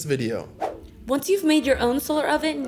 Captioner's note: screen whooshing